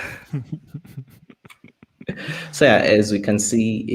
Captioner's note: chuckles